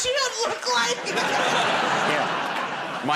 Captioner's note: laughter